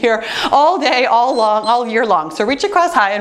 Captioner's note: timer beeps